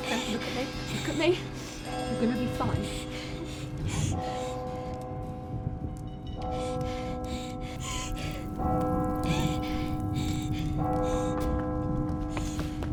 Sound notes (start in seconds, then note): 5.2 Clementine sobs